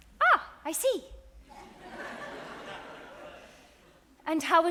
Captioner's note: audience laughs